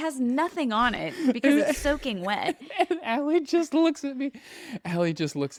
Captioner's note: laughs